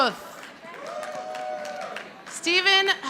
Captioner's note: audience applauding